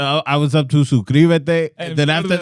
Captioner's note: speaking Spanish